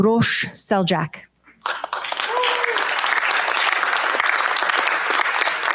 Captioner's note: cheers, applause